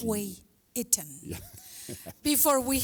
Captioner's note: laughs